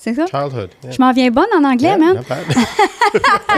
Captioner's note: in french